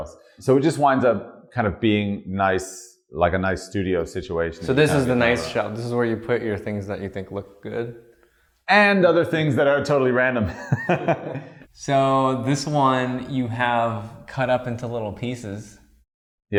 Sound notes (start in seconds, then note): 10.4 laughter